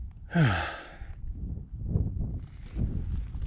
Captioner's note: sighing